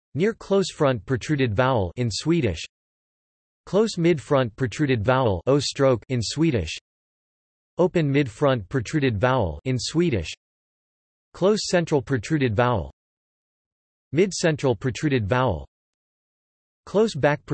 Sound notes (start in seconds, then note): 3.0 in Swedish; 6.6 in Swedish; 10.6 in Swedish